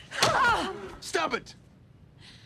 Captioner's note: grunts with effort